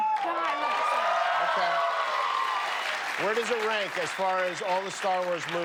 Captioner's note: cheers and applause